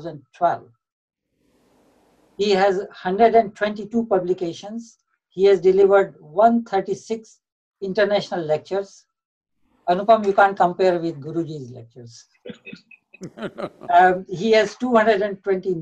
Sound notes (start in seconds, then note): 13.2 laughter